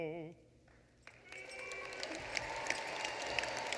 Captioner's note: applause